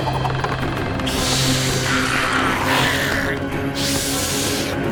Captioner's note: hissing, snarling